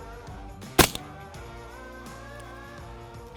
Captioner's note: gun shot